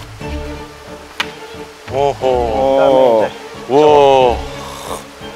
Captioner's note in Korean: 감탄